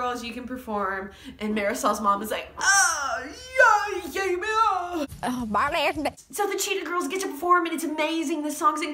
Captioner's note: weird, vaguely offensive cries